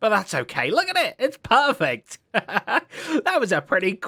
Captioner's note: laughs